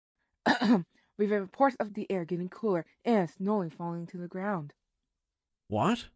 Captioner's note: clears throat